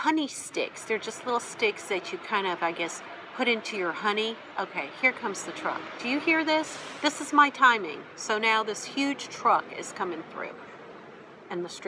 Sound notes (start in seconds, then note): 6.4 big noise